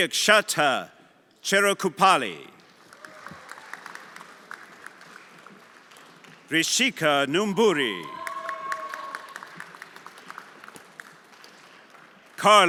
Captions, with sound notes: Sukchaata Cherkupali. (everyone applauding) Rishikaa Numburi. (everyone applauding)